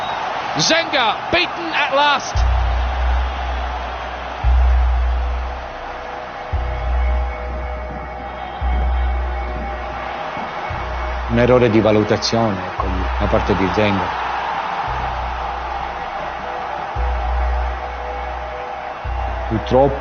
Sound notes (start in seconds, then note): 4.4 dramatic music playing; 8.1 whistle blows